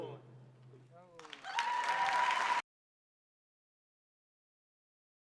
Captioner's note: audience clapping